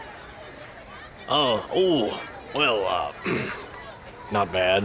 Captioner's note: clears throat